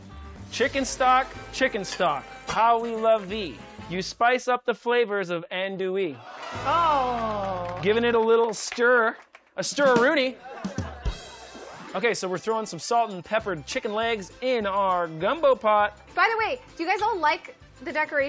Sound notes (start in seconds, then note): 6.2 crowd oh-ing; 6.3 applause; 11.0 ba-dum-tssh